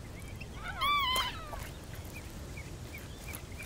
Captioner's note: bird cawing